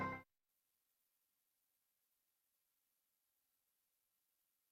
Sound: silence

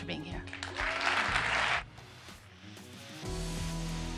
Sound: audience applauds

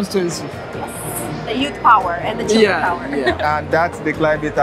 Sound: laughs

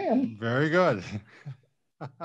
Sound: laughs

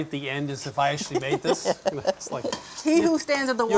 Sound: laughs

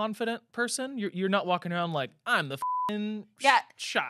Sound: beep

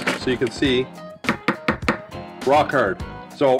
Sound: bangs

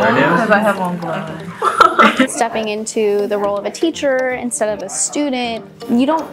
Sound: laughter

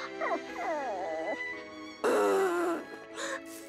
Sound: whining; loudly blowing

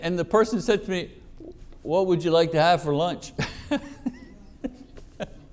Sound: laughs

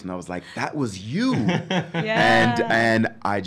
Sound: laughs

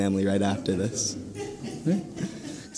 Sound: audience laughing

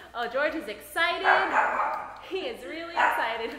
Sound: dog barking

